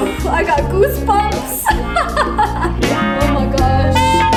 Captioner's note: laughs